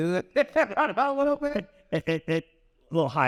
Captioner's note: laugh